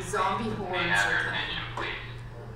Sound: voiceover

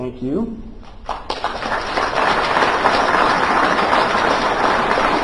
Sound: applause

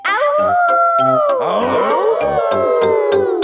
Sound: all howling; howling

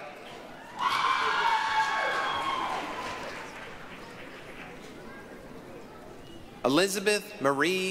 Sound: applause, cheering

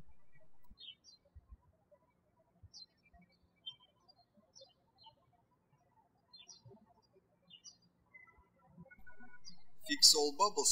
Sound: birds chirping

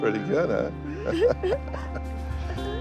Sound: laughs

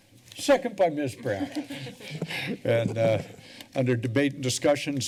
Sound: laughter

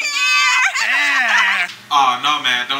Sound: laughter

